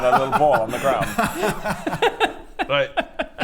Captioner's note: unsympathetic laughter